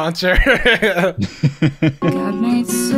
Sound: laughter

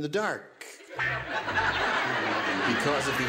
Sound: laughter

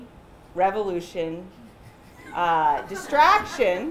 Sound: chuckling

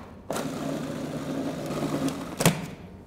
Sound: blender Sounds

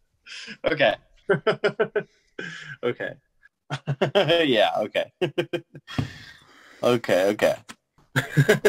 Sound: laughter

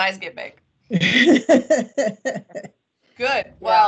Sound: laughs

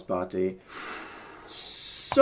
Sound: exhales

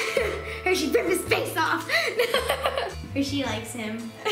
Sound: laughs

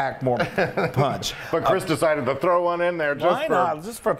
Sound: laugh

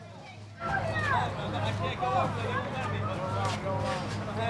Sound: background chatter

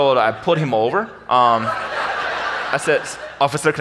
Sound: audience laughs

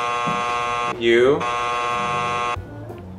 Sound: buzzer buzzing

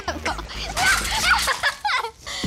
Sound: laughter

